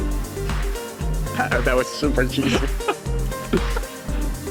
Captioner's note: laugh